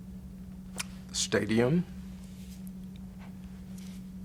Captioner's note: none